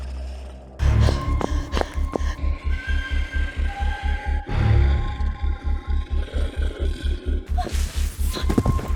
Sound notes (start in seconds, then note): 0.8 Heather panting; 0.9 shoes clacking; 3.6 suspenseful music